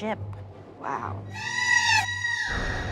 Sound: screams

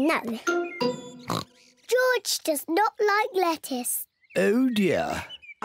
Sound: oinks

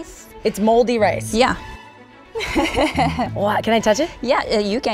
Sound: laughs

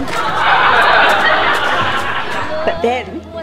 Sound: laughing

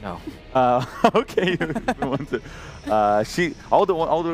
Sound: laughs

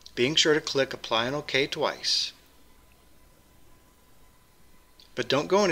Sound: pause

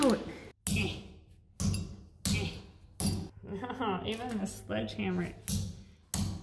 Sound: hammer thumps; hammer thumps

